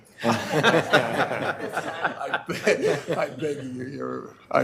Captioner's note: board laughing